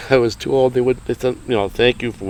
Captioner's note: chuckling